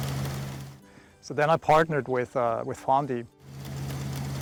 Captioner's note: tractor whirring